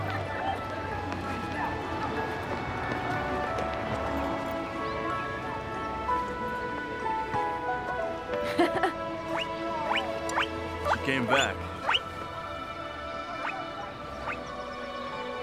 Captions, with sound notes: (guinea pig squeaking) - She came back.